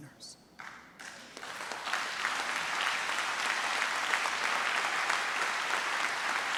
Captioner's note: trustees and audience applaud